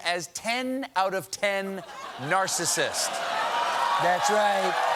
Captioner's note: cheers and applause